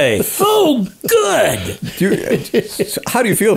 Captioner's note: co-hosts laughing